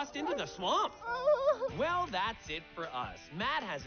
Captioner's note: whines